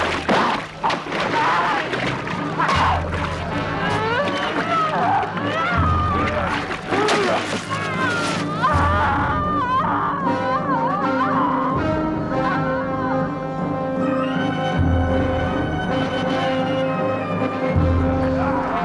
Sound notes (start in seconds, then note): 4.2 villager grunting; 7.7 villager screaming